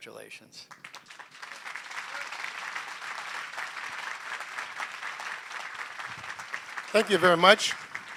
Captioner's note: applause